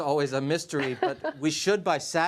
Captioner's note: laughter